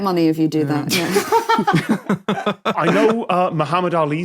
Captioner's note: laugh